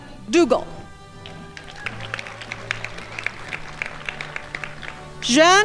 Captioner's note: crowd applauding